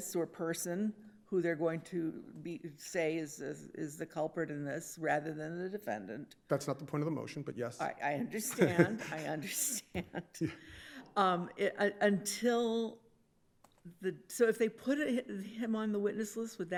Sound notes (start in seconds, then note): 8.4 chuckles